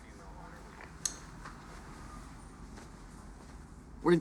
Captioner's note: radio turns off